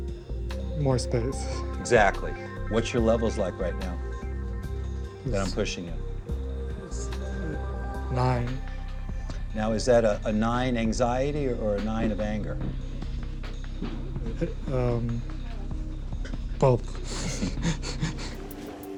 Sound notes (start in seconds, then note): 16.7 chuckles